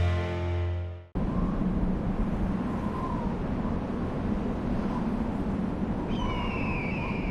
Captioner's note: whistling winds; bird cries